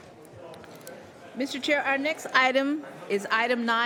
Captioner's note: mixed conversation in the room